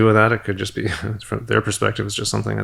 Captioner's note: chuckles